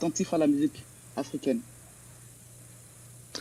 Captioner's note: answers in French